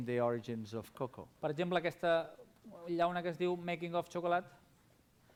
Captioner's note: non-english speech